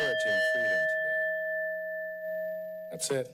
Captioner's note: bell rings